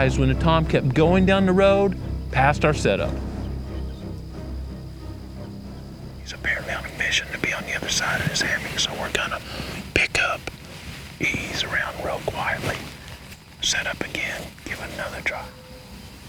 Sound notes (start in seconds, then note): 4.4 whispering